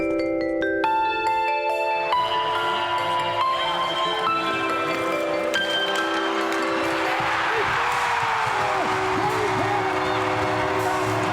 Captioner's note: cheers & Applause